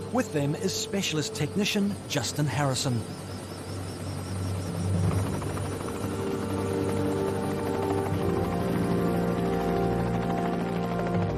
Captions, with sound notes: With them is specialist technician, Justin Harrison. (helicopter blades whirring)